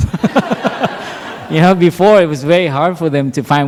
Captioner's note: laughter